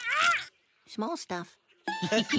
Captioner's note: laughing